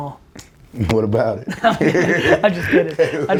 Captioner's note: both laughing